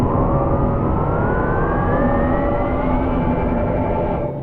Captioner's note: engine roaring